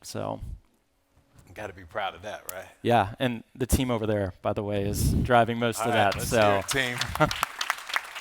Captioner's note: claps